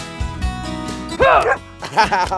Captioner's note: barks; laughs